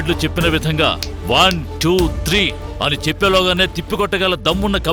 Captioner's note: snaps finger